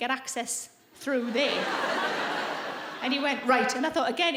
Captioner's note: audience laughing